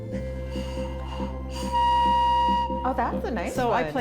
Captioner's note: ghost whistle blowing